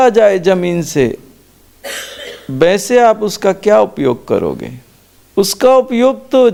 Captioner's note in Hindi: खांसने की आवाज़